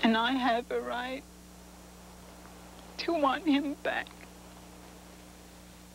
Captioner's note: voice shaking